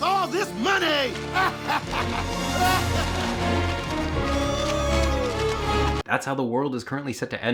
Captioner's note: sinister music; Mr. Richfield laughing